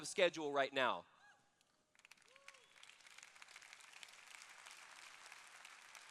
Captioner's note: applause